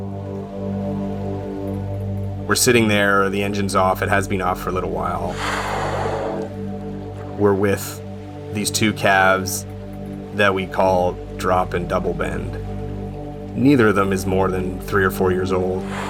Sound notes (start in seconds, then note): 0.1 mysterious music; 5.2 whale blowing air